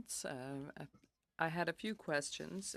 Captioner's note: speaking French